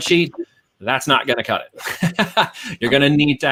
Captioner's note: chuckles